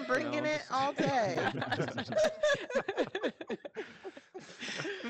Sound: group laughing

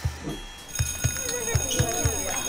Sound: school bell

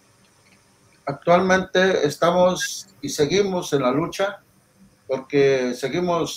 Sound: speaking in foreign language

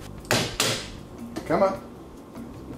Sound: banging noise

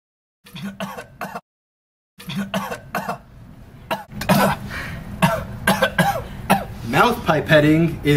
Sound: coughing

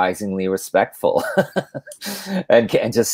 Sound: laughs

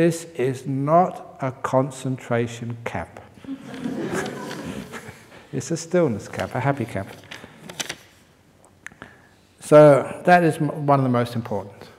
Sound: laughter

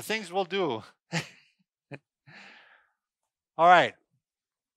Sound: man laughing

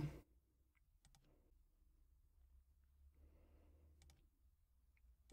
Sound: mouse clicking

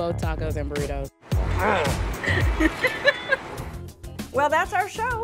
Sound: woman laughs

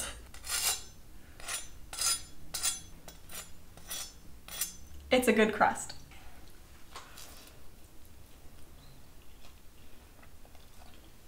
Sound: deliciously crispy scraping noises

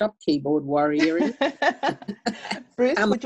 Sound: laugh

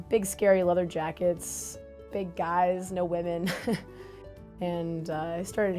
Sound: laughs

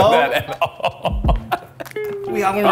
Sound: laughter

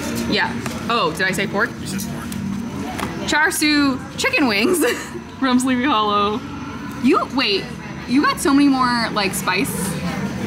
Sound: laughing

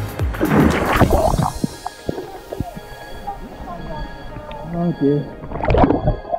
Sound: splash

